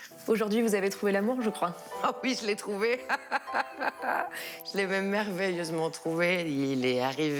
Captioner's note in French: rires